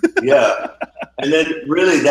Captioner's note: laughing